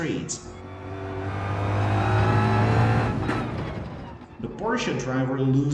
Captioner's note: engines revving, cars noises